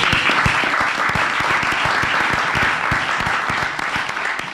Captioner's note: applause